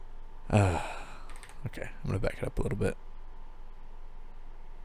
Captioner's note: sigh